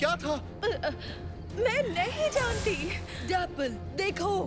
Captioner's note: stammers